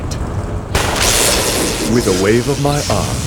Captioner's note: lightning